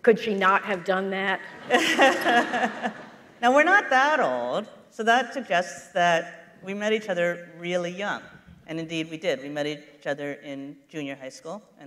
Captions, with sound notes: - Could she not have done that? [laughter] - Now we're not that old, so that suggests that we met each other really young, and indeed we did. We met each other in junior high school,